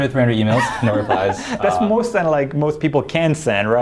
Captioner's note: laughing